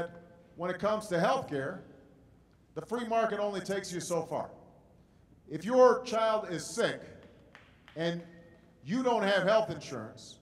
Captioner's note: applause